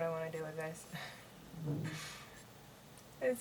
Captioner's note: laughs